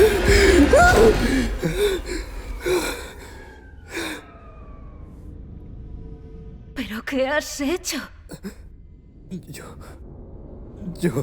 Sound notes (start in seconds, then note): 0.0 yelps; 8.3 stammers